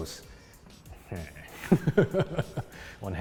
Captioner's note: derpy laughter